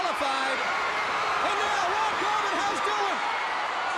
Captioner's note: crowd cheering